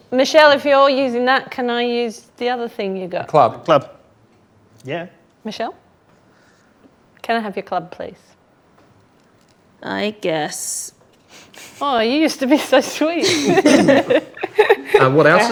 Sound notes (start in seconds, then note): 12.5 laughs; 12.5 group laughs